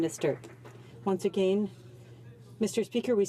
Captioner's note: some Applause